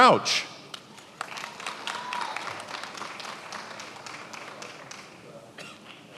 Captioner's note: attendees applauding